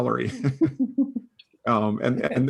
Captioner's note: laughing